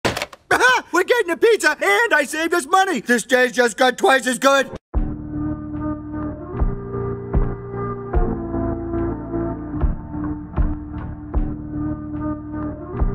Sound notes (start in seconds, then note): 0.0 hangs up phone; 5.0 suspenseful music playing